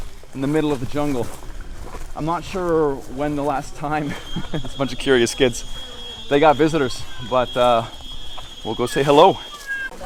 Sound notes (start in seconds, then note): 3.9 laughing